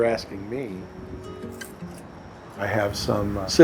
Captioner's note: snip of sissors